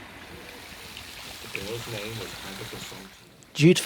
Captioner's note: sound of falling water